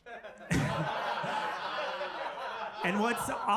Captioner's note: audience laughing